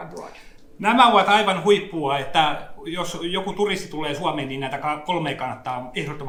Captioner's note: speaks in Finnish language